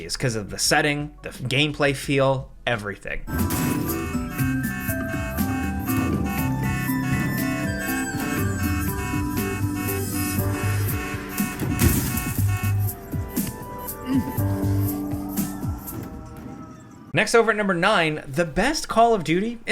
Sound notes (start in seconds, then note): 3.4 car alarm blaring; 3.5 car thuds; 4.4 light upbeat music; 11.5 windshield smashing